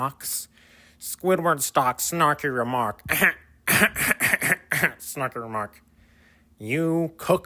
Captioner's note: Squidward laughter